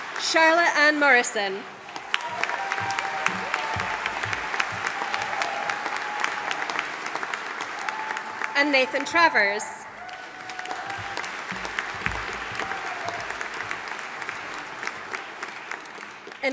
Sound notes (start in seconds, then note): 2.4 audience applauding; 11.7 audience applauding